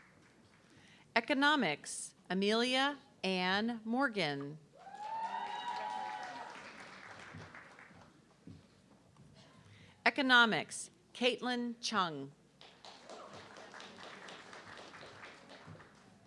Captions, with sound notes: Economics, Amelia Ann Morgan. (audience clapping) Economics, Kaitlyn Chung. (audience clapping)